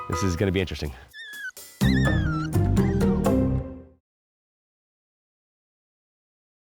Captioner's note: upbeat music; puppy whining